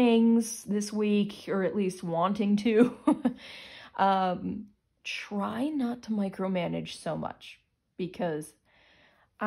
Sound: chuckles

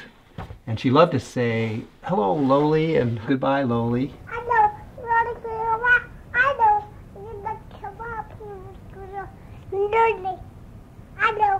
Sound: baby babbling sounds

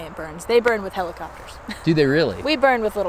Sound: laughs

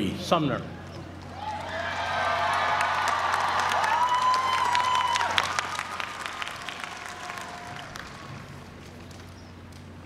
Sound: applause

